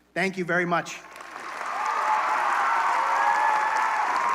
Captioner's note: applause, cheering